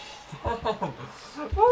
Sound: laughs, muffled

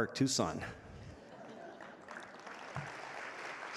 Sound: audience laughing; audience applauding

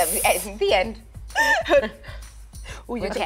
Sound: laughter

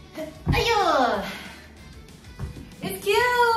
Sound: upbeat Christmas music plays; girlfriend cheering

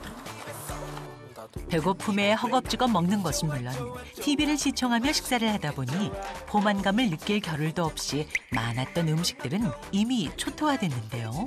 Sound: voiceover

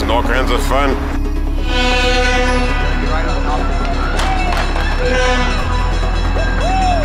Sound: train horn blaring and railroad crossing bells clanging

